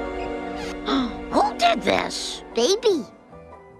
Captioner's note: gasp